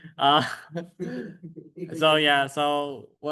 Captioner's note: laughter